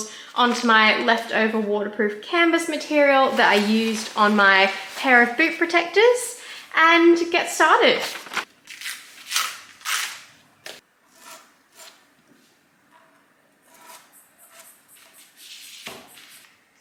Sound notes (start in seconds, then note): 7.9 making tape crackles; 11.0 pencil grates against material and ruler